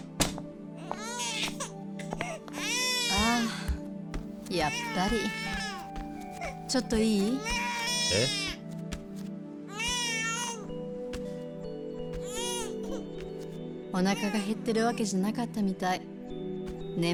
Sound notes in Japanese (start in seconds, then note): 1.9 泣き声; 7.1 泣き声